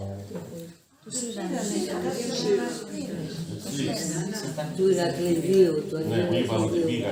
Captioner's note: chattering